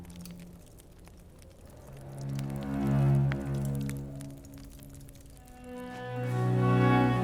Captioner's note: fire crackling; soft music